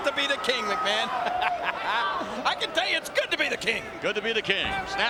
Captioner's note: laughing